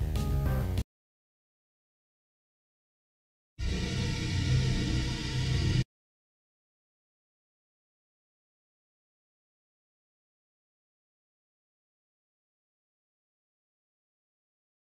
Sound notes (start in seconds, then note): 1.2 ♫ Silence; 6.1 ♫ Silence